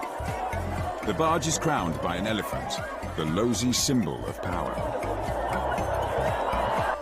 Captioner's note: crowd overlap chanting